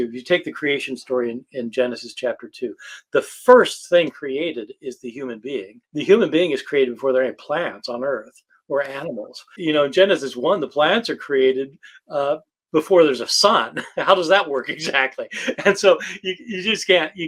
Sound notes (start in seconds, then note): 13.6 laughs